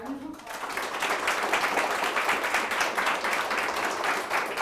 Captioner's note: crowd applauding